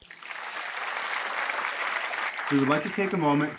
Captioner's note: applause